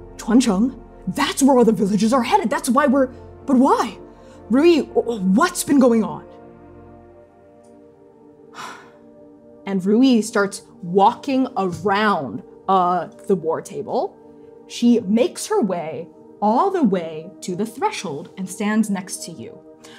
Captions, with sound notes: Chuancheng? That's where all the villagers are headed! That's why we're... But why? Ruyi, what's been going on? [sighing deeply] And Ruyi starts walking around the war table. She makes her way all the way to the threshold and stands next to you.